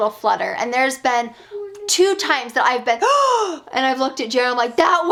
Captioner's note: gasps